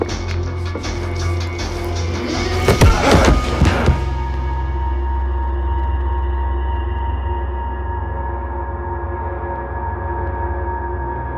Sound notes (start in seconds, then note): 2.9 Tyler yells; 3.7 tense music